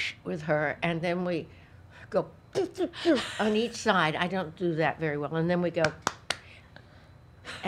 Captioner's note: claps